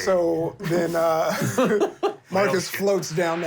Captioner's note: laughs